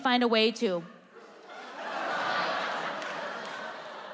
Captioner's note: audience laughing